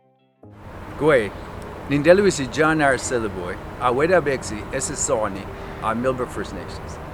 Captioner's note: speaking in Mi’kmaq